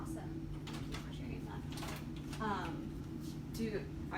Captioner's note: door unlocks